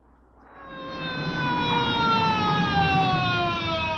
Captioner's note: sirens wailing